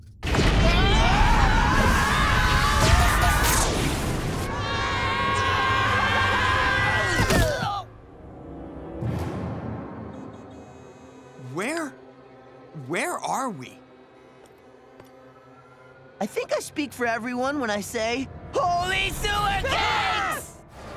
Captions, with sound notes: [screaming] [screaming] [thudding] Where.... Where are we? I think I speak for everyone when I say- Holy sewer cakes!